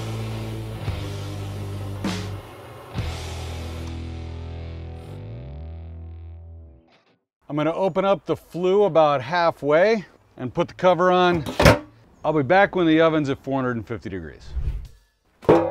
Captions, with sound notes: I'm going to open up the flue about halfway and put the cover on. (cover thumping) I'll be back when the oven's at 450 degrees. (air whooshing)